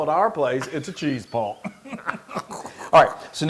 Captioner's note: laugh